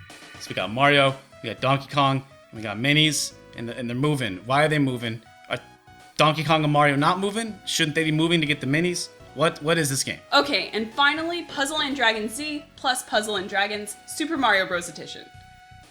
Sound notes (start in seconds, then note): none